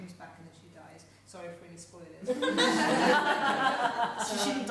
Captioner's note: laughing